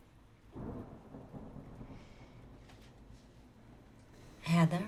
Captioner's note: thunder cracking